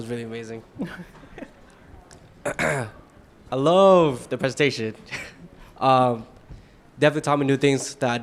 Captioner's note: laughs